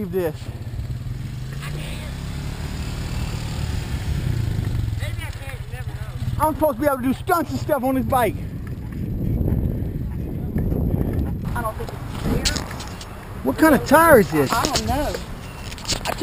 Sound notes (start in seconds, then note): 3.3 four Wheeler Engine Noises; 8.3 kids laughing